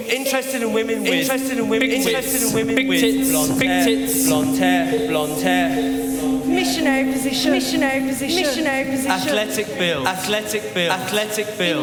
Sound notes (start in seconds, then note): 4.2 voices continue to echo and repeat